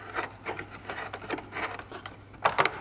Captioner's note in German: Schabende Laute